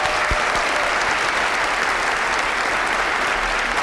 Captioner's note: applause